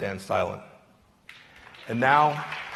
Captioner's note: applause